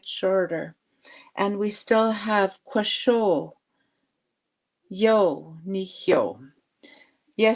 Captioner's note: speaking Indigenous language